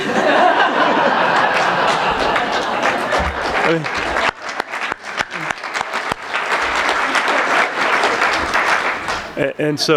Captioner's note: laughter